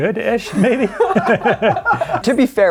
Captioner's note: speakers laughing